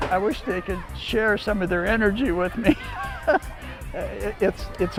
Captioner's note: laughs